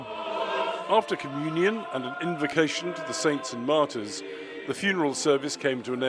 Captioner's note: voice-over